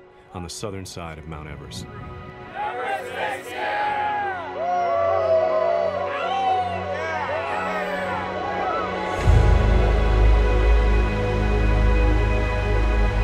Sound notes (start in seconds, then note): 4.8 men cheering; 9.6 soft tense music begins